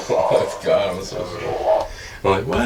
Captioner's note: laughs